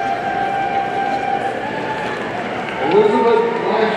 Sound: audience cheering

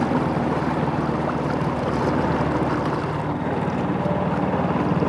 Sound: engine whirring

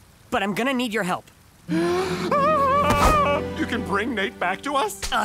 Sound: gasping

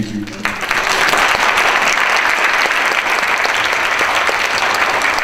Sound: audience applause

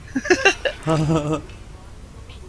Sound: chuckles

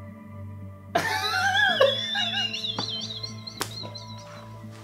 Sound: Gerard laughing

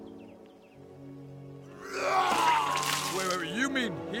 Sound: vomits

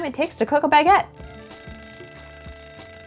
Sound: kitchen timer ringing

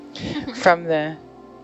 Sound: woman laughs

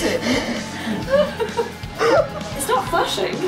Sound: laughs

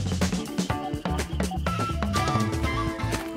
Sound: beeping

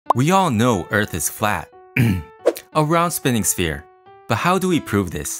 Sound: cough cough

